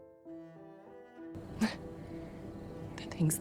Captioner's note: Serena laughs